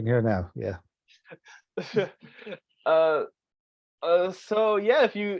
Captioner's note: laughs